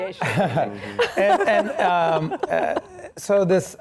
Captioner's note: laughing